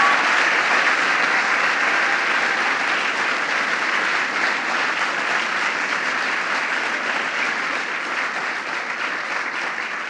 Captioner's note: applause